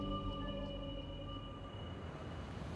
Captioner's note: car approaching